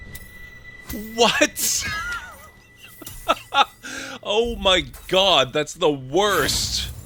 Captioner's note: laughter